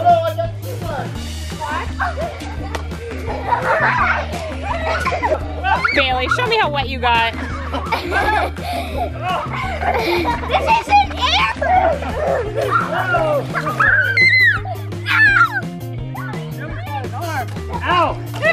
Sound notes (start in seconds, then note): 1.9 giggling; 7.4 laughs; 11.6 laughing and screaming; 13.6 screaming